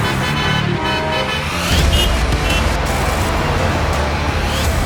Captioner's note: car horns